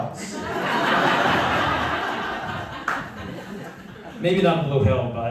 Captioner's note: laughter